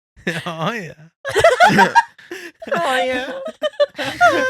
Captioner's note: laughing